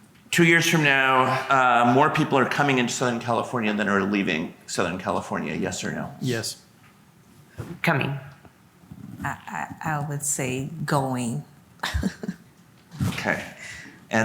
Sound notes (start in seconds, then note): 11.8 laughs